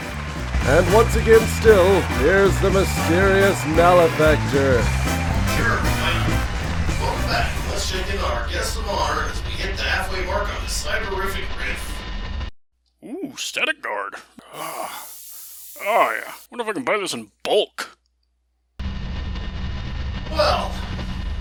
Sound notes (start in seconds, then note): 14.9 aerosol spraying